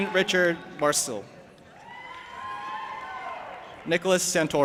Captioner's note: audience applauding and cheering